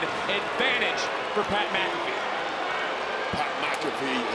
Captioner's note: crowd boos